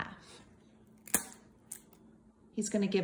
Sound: matzah cracks

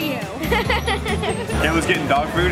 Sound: laughs

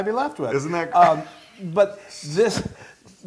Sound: laugh

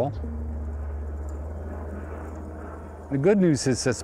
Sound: airplane engine roaring

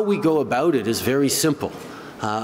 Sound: none

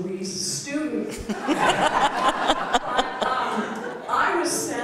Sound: laughter

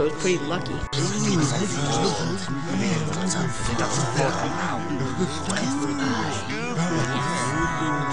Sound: peckish chatter

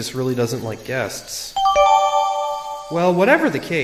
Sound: new evidence chime

